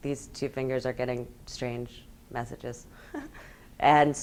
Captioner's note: laughs